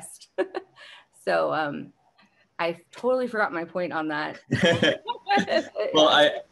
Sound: panelists laughing

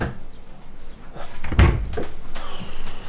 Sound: slams cabinet door

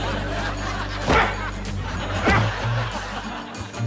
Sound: grunting

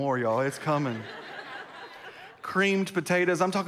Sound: congregation laughs

